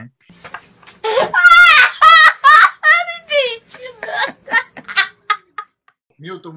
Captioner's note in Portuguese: risadas